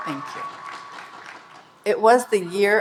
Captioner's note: audience cheering and applauding